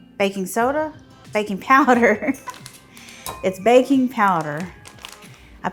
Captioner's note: laughs